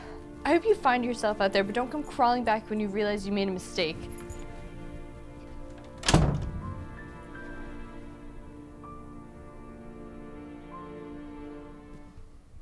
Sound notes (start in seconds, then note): 5.5 door slams; 10.9 music fades out